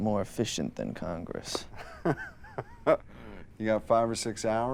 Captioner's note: laughs